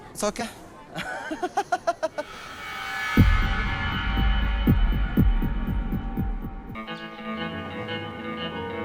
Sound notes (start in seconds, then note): 2.3 laughs